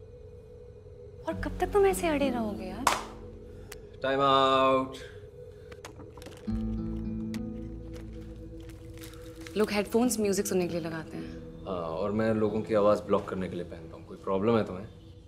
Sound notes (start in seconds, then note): 2.8 claps